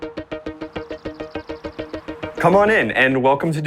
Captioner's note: birds chirping; lively music playing